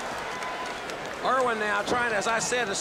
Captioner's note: crowd chatter